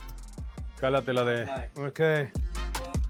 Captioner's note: speaking Spanish